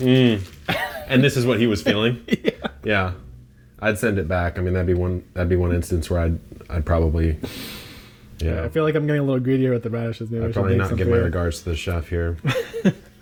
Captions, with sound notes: - Mm. And this is what he was feeling. - (laughs) Yeah. - Yeah. I'd send it back. I mean, that'd be one instance where I'd probably, yeah. - I feel like I'm getting a little greedy with the radishes. - I'm probably not giving my regards to the chef here.